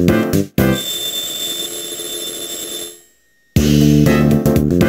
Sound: riiiing

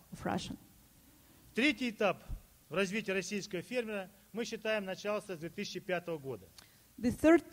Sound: speaking Russian

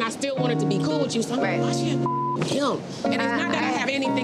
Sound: beep

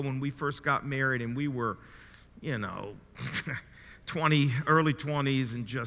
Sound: chuckles

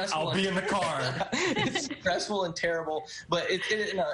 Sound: laughter

